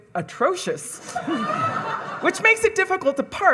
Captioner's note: audience laughing